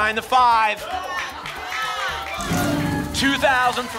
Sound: cheering

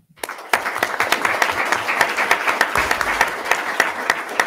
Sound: attendees clapping

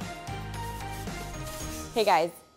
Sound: screen scratching

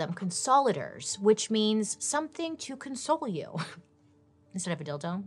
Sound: chuckles

